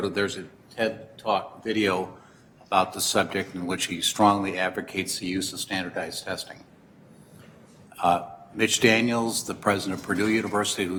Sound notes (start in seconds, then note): none